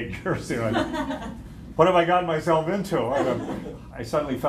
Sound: laughter

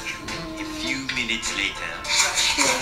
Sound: male Voice

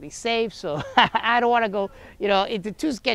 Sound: laughs

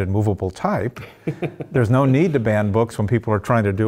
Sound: laugh

